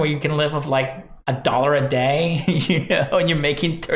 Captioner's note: laughing